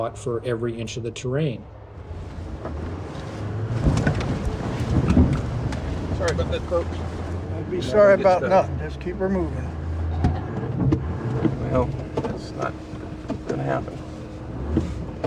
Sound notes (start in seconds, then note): 2.6 engine rumbling; 4.7 rattling